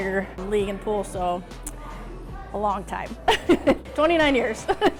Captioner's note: laughs